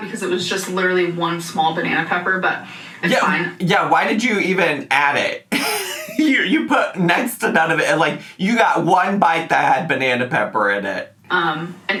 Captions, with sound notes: because it was just literally one small banana pepper, but it's fine. - Yeah, why did you even add it? (laughs) You put next-to-none of it, and like, you got one bite that had banana pepper in it.